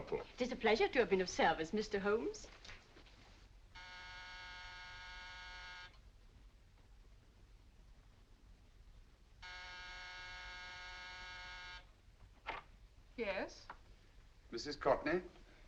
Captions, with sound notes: It is a pleasure to of been service, Mr. Holmes. [door buzzer] Yes? Mrs. Courtney?